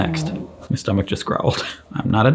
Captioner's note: stomach growling